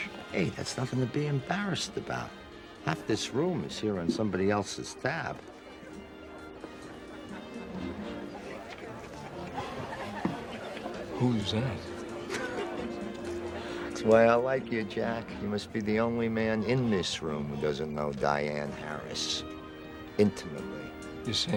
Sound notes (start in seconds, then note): 7.1 carefree music; 7.1 patrons chatter; 11.7 laughs